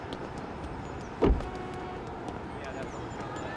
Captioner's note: door closes